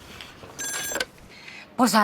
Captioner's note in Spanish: Suena el teléfono